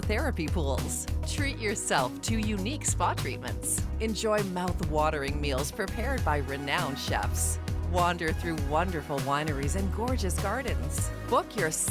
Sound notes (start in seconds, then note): none